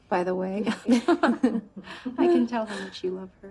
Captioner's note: laughs